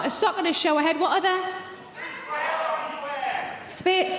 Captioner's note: audience members shouting